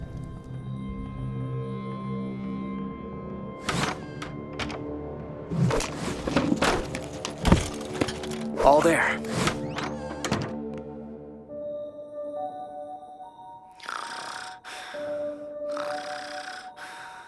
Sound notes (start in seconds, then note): 0.1 suspense music; 3.6 door opens and closes; 5.6 furniture rustling; 9.1 door closes; 13.6 crickets chirping; 15.7 Jessa snores